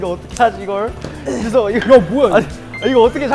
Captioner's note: panicking